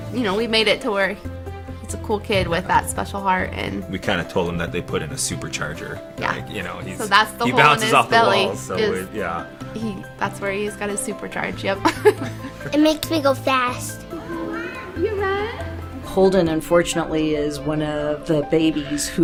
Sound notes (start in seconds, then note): 11.8 both laugh